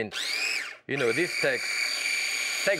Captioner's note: food processor grinding